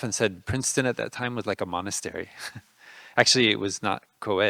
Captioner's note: laughing